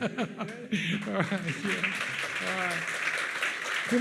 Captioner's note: audience applauds